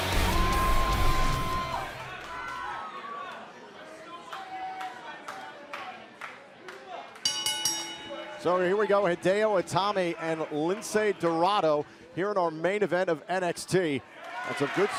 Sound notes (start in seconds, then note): 7.2 bell ringing